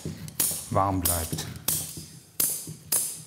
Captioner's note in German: Schnittgeräusch